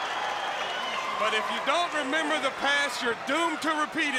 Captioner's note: crowd cheering